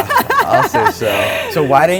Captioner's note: laughs